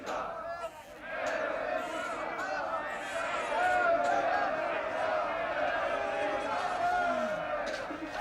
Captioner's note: crowd shouts